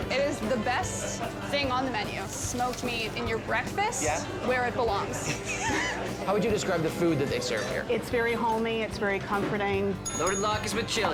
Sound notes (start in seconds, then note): 5.2 both laugh; 10.0 bell dings